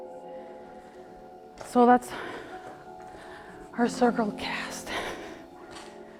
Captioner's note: out of breath